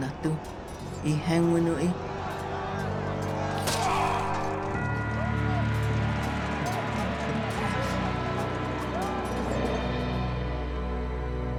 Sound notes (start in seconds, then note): 0.9 people shouting and fighting; 3.5 man grunts